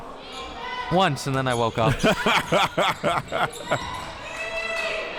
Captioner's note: laughs